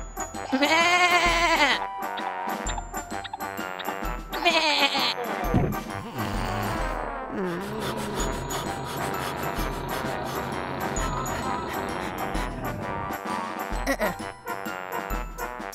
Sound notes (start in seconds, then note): 4.4 weak bleat; 5.5 thud; 5.6 snoring; 7.4 panting